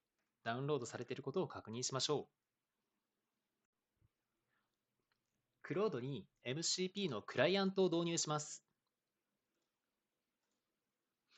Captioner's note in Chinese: 四秒停顿